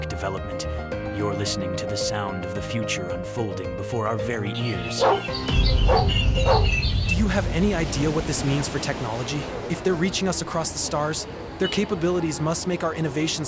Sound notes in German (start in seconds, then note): 4.7 Hunde bellen, Vögel zwitschern